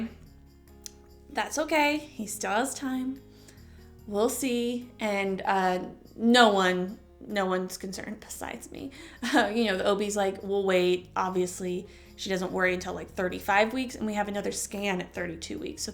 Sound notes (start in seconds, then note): 8.4 chuckle